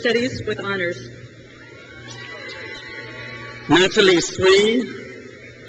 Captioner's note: crowd cheers